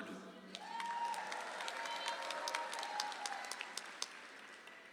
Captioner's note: audience applauds